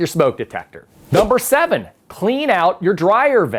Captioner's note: letters whoosh